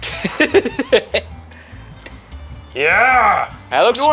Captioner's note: giggling